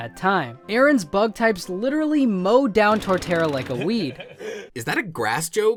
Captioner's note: Seth rogen laughs